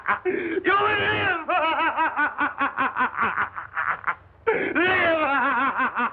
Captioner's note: more Maniacal Laughter; maniacal Laughter